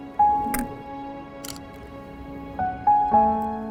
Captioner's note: camera click